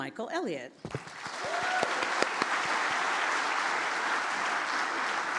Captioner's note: audience applauds